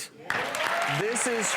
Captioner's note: audience applause